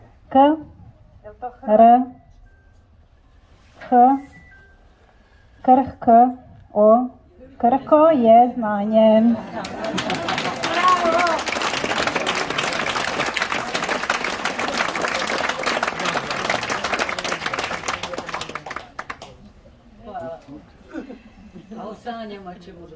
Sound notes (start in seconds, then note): 16.4 applause…